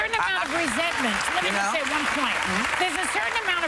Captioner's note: applause